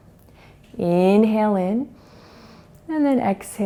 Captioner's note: inhales